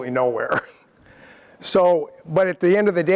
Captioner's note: laugh